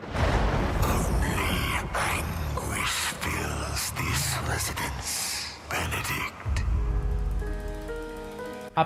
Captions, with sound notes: [Demonic Voice] "Only anguish fills this residence, Benedict..."